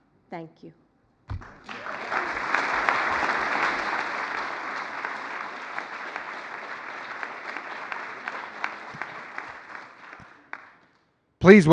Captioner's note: applause